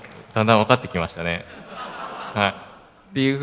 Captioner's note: laugh